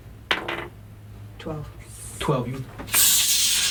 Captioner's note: sizzling noise